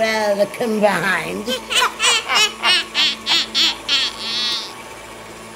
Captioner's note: witchy laughing